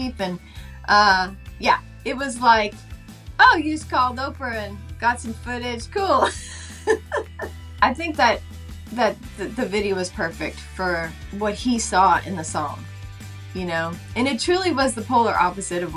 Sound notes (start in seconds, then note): 6.2 laughing